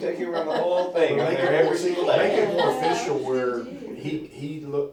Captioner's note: laughter